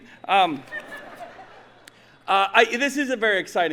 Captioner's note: audience laughing